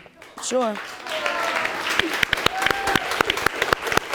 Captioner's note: people cheering